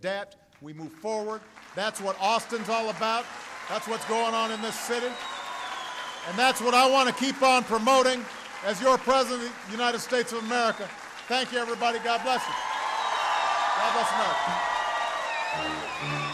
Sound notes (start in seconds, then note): 5.3 applause